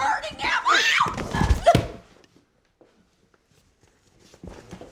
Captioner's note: Carol screams